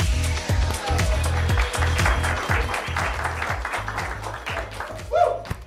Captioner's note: ecstatic electronic dance music; audience applauds